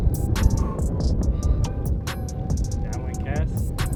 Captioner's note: man exhales